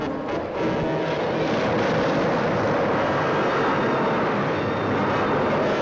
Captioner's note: dramatic orchestral music; wind whooshes